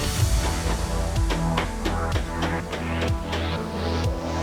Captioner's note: tool scraping